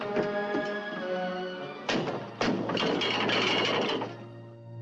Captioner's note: thumping, rattling